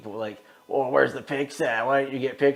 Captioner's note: machine humming